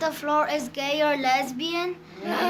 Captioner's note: children laugh